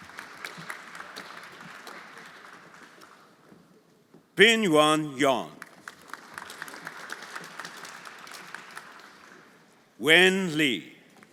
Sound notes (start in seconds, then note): 0.0 everyone applauding; 5.4 everyone applauding